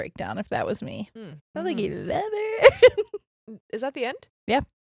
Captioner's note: giggles quickly